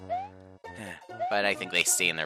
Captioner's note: sigh